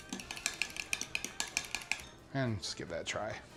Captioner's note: fork rattles